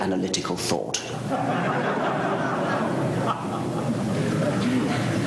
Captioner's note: laughter